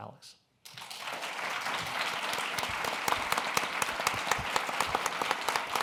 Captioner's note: applause